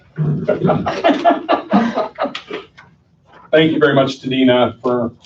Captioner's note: laughter